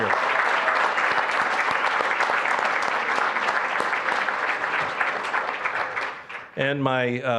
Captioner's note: applause